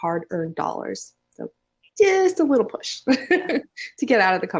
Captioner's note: chuckles